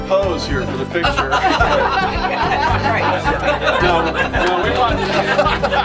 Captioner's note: audience laughing